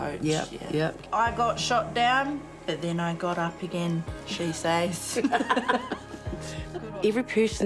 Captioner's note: both chuckle